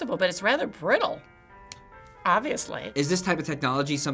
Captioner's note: filament snaps